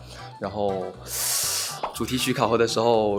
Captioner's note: sighs